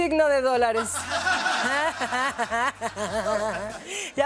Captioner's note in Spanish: Ríe